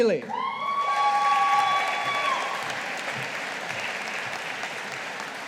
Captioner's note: audience applauding